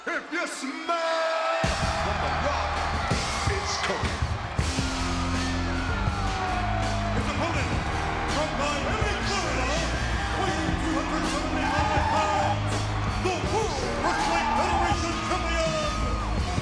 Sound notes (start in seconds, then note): 4.4 crowd cheers; 4.4 rock music plays